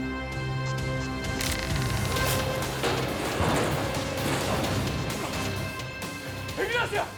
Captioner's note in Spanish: Estruendo al caer el ascensor